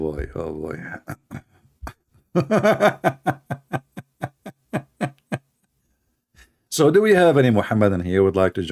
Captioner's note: Ketawa